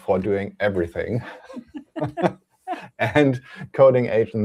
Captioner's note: laughter